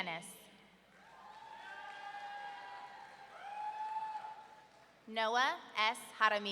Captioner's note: audience cheering